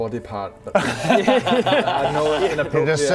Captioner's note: bold laughter